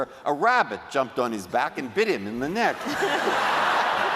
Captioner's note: laughter